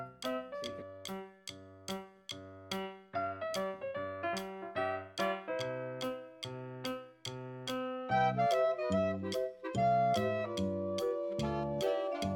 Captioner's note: clap